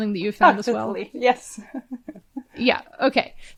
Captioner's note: chuckles